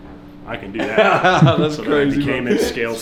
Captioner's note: laughing